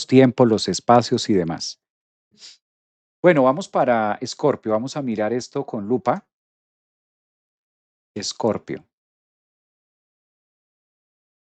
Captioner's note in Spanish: resoplido